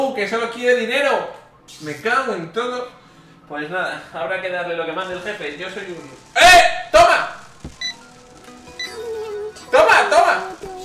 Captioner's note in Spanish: sorprendido